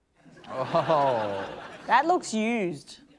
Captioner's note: laughter